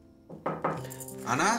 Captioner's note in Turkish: Kapıya vuruluyor